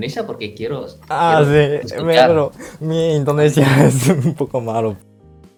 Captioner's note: Spanish